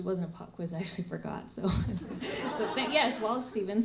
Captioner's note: laughter